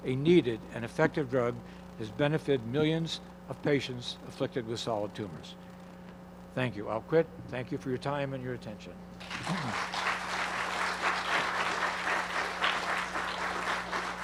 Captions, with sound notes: a needed and effective drug, has benefited millions of patients afflicted with solid tumors. Thank you, I'll quit. Thank you for your time and your attention. (audience applauding)